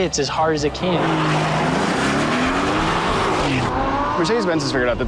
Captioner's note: car engine roars